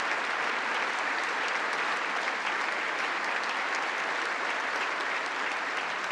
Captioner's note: congress applauding